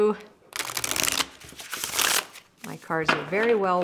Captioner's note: cards shuffling